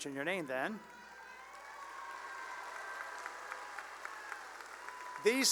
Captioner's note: cheering and applause